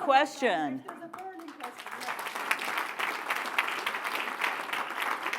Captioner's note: applause